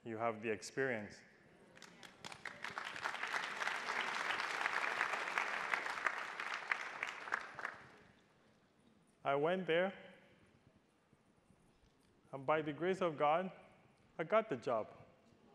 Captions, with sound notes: you have the experience. (attendees applauding) I went there and by the grace of God, I got the job.